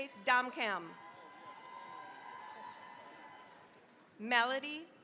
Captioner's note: cheering, applause